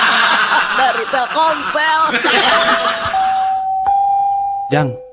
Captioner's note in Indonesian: tertawa